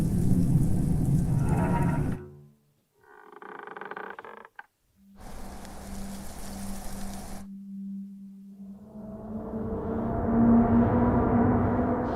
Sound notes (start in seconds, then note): 3.0 floorboard creaks; 7.4 ominous music